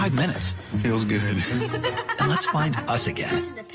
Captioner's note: laughs